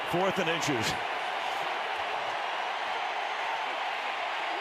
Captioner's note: cheering